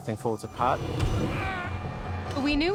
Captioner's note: growls; screams